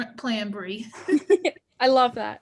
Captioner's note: laughing